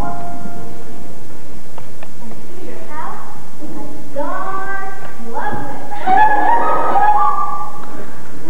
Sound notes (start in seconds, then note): 0.0 music fades; 5.8 giggling